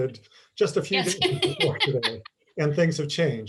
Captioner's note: laughs